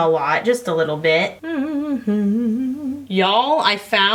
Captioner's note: hums